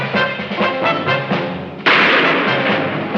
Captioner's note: shot firing